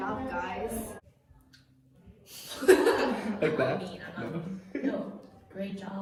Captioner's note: laughter